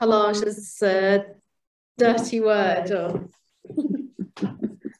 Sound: giggles

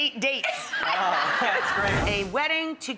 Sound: laughing

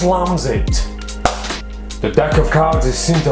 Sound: claps hands

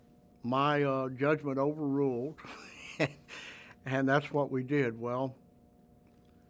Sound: laughs

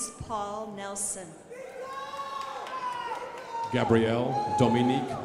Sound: crowd applauding

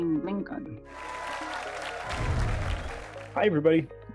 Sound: applause

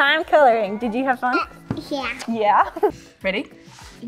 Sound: giggling

